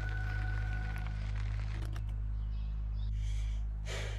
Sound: birds chirping; sighing

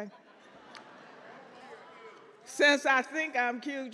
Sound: audience laughs

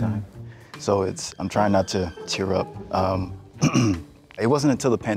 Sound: clears throat

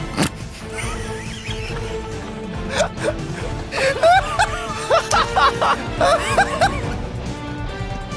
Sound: laughs

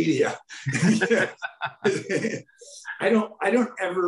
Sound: both men laughing

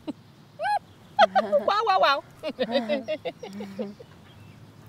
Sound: nervous laughter

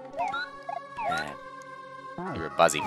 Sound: sigh

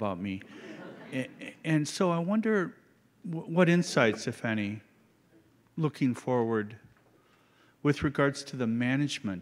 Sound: laughter

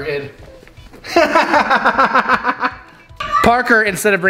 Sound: laughs

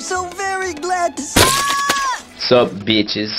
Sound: bloody impact, screaming

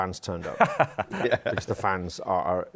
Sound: laughs

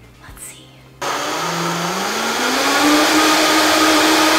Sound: blending sounds

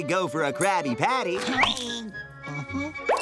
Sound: grunting

